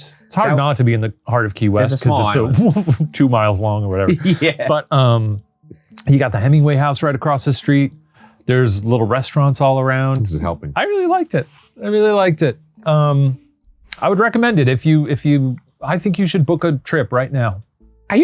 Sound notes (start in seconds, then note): 2.0 chuckles; 3.9 laughs